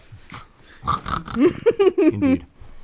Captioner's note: oinks like pig